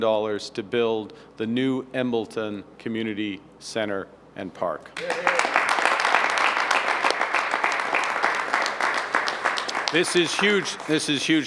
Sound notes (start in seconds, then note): 8.5 applause